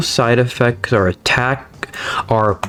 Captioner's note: inhales Oxygen